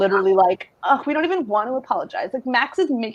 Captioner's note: scoffs